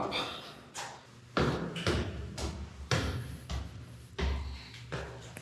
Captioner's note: footsteps thudding